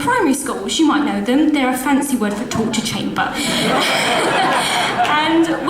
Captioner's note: audience laughs